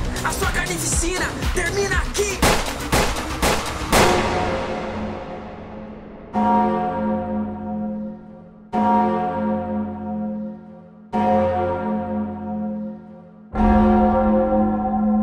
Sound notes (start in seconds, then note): 2.4 gun fire noise; 4.1 cathedral clanging noise